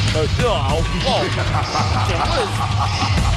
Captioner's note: groaning